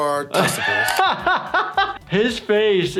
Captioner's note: laughs